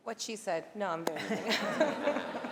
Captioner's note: laughter